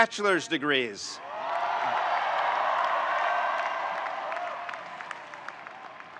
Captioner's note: audience cheering and applauding